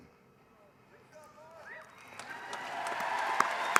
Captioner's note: applause